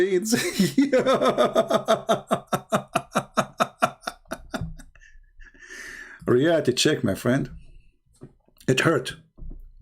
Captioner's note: Ketawa